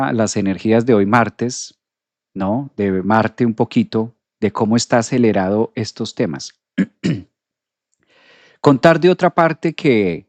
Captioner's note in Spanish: carraspeo